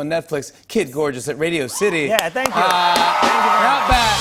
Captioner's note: cheers and applause